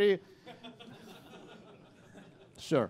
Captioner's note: laughter